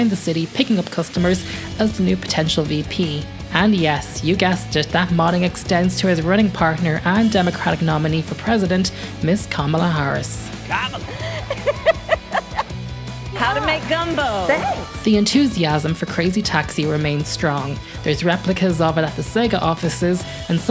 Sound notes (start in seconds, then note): 11.0 laughing